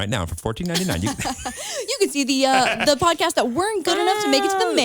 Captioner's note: laughs